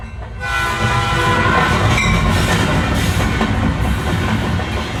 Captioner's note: train whistle